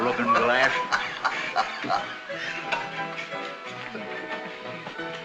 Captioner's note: hoppy laughs